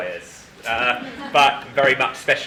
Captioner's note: group laughing